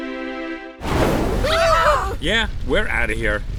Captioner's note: dramatic music; burning sounds